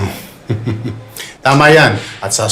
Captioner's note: Henry chuckles